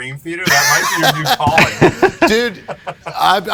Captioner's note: laughs